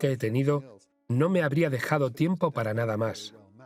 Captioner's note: voiceover